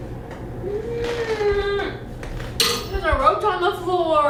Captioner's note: Allison groans